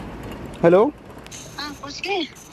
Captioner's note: on phone